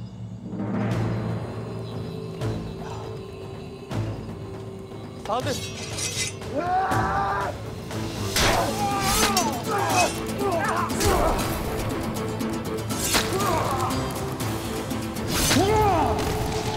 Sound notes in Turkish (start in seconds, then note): 0.3 Müzik - Hareketli; 6.4 Bağırma sesi; 7.9 Savaş sesleri